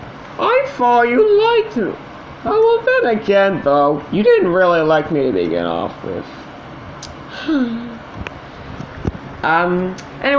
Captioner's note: sighs